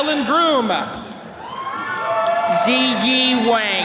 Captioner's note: attendees cheering